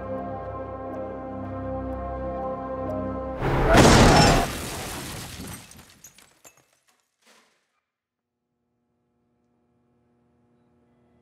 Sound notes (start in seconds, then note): 0.3 tense music; 3.4 crashing; 3.5 metal squeals; 3.7 glass shatters